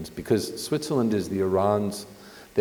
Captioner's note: none